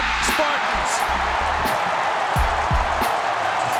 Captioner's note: crowd cheering